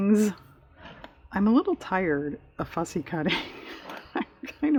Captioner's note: laughs